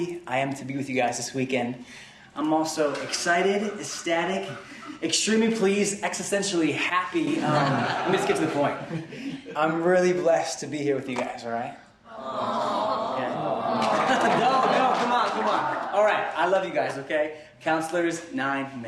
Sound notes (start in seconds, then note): 12.4 laughter